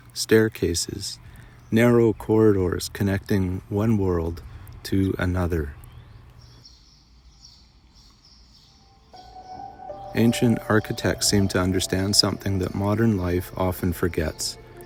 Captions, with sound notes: staircases, narrow corridors connecting one world to another. [birds and wind howling] Ancient architects seem to understand something that modern life often forgets.